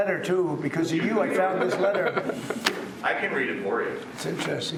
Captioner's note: chuckling